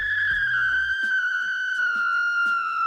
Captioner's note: screaming